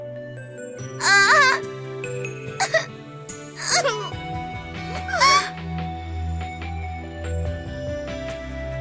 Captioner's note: sobbing